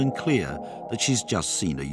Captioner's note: speaking in foreign language